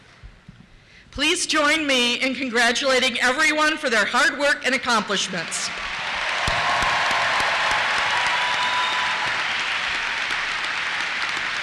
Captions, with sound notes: Please join me in congratulating everyone for their hard work and accomplishments. (applause)